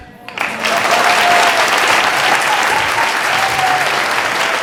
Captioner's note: audience clapping